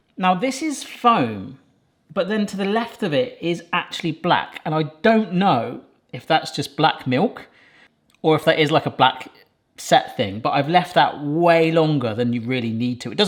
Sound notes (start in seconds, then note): none